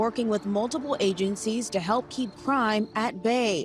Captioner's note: siren wailing